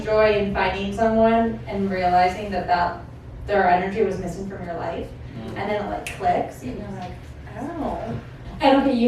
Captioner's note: snaps